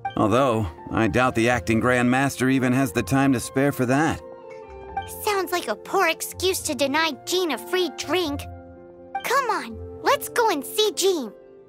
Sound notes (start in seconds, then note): none